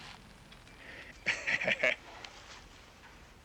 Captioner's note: laughing